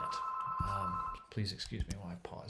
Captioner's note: phone ringing